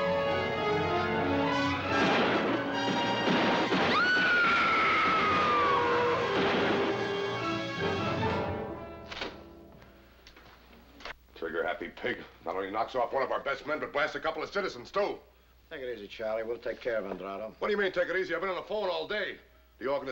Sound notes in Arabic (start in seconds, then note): 1.6 طلقات نارية; 3.8 صراخ